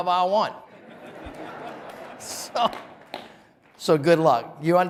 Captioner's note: audience laughing